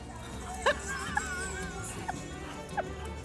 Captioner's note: laughing